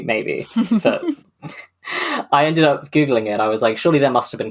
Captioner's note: laughs